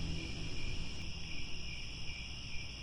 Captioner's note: crickets